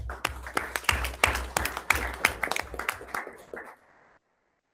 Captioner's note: everyone applauds